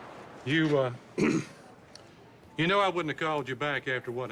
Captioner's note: clearing throat